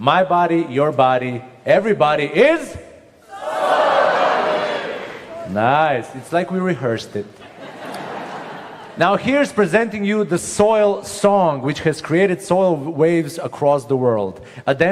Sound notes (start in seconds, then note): 7.3 laughter